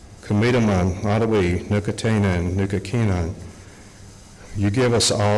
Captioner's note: speaking Algonquian